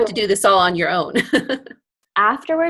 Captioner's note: laughs